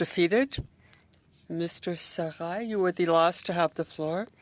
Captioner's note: speaking French